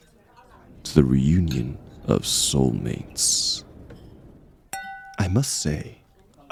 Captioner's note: sfx: clink